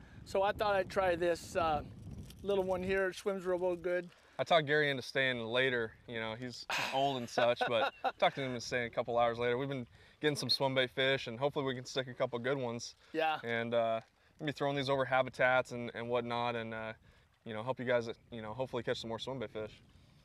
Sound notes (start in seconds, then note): 6.7 laughter